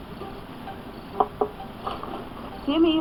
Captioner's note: knocking on Door; door Opens